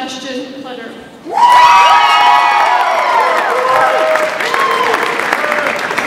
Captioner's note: audience applauds and cheers